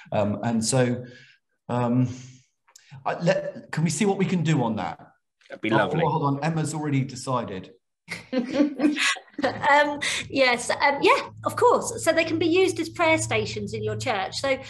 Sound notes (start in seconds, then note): 8.1 laughs